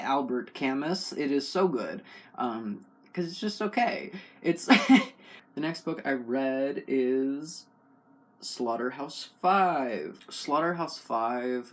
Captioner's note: laugh